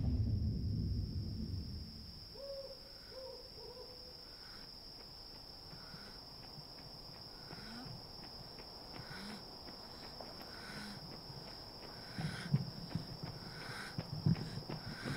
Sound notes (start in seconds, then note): 1.0 woman breathing heavily; 2.3 owl hooting